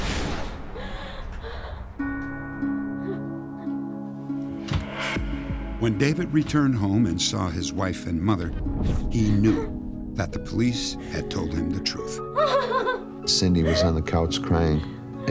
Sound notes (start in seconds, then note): 12.0 sobbing